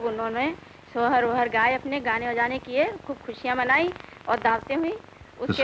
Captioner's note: non-English speech